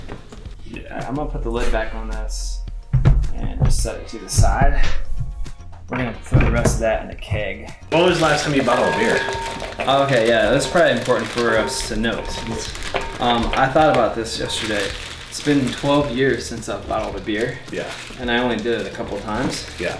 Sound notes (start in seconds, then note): none